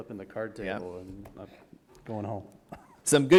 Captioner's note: chuckle